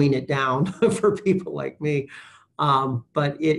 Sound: chuckles

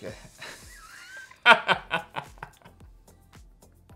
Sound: laughs

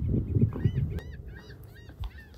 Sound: seagull squawking

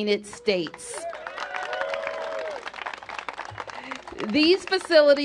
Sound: cheers and applause

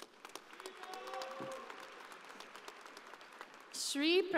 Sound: audience applauding

